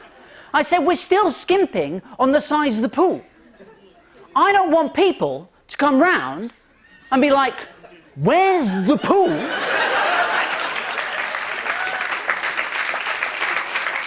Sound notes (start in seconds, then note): 8.6 laughter; 11.6 cheers and applause